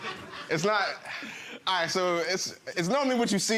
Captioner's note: sighs